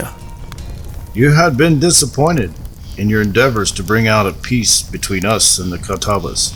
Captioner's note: iroquios accent